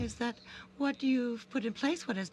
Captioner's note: speaking French